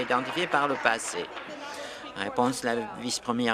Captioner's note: applause